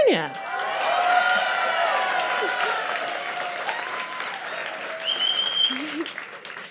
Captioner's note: audience cheers